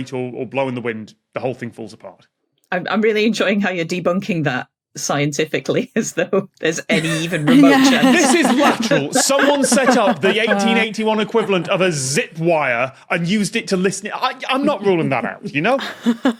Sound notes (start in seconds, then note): 6.9 guests laughing